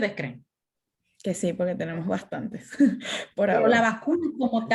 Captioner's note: laughter